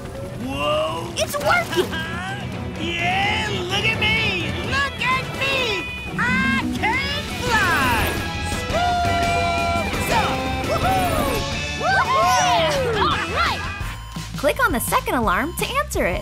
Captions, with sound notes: - Whoa! - It's working! Yeah, look at me! Look at me, I can fly! Swoops! Whoo-hoo! [cheering] Click on the second alarm to answer it.